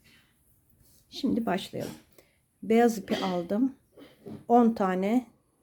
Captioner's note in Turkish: boğazını temizler